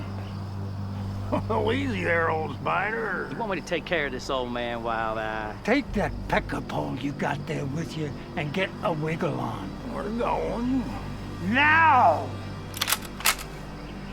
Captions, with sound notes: - Oh, easy there, old spider. - Do you want me to take care of this old man, Wild Eye? - Take that pecker pawn you got there with you, and get a wiggle on. - We're going. - Now! (cocks gun) - We're due elsewhere, on business.